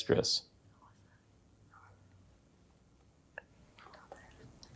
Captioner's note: group whispering